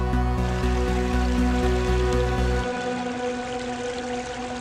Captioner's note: water splashing